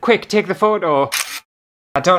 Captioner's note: camera Snap